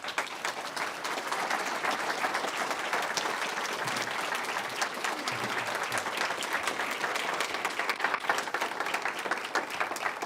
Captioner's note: applause